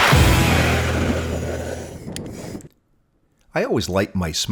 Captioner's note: torch blowing